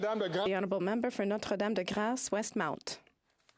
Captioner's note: some Applause